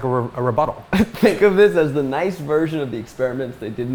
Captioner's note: laughs